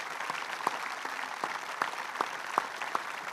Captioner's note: applause